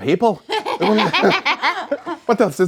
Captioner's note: laughing